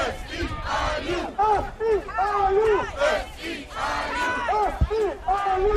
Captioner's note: chanting